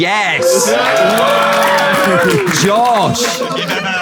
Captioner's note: people in room cheering